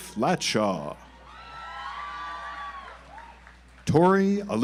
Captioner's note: audience applauds